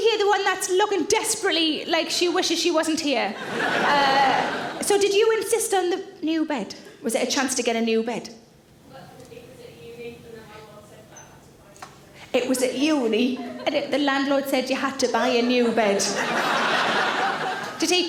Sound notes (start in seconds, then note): 3.4 audience laughing; 15.1 audience laughing